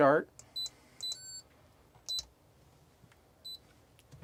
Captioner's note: beeping